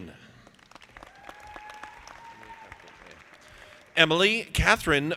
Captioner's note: audience applauding